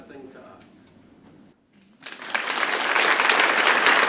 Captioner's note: crowd claps